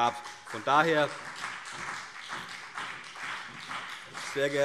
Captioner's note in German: Beifall CDU und BÜNDNIS 90/DIE GRÜNEN